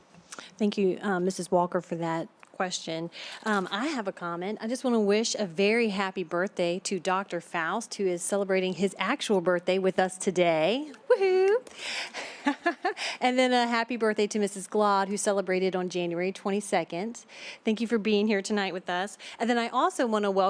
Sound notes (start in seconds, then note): 12.2 laughter